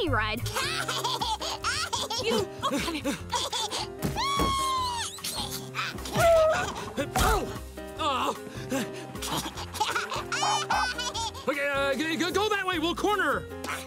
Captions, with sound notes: [laughing] You, come here. [squealing] Ooh. Aww. [laughing] Eh! Go that way! We'll corner her!